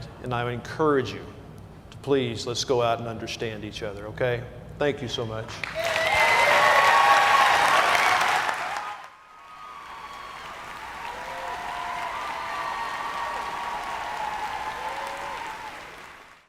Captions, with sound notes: And I would encourage you to, please, let's go out and understand each other, okay? Thank you so much. (Cheers and applause)